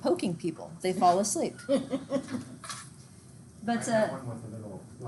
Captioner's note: students laugh